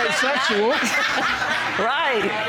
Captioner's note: audience laughing